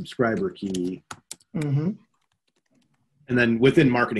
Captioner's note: computer keyboard claking